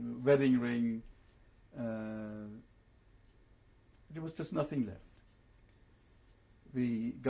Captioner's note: pauses for 3 seconds